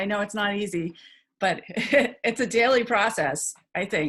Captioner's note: chuckles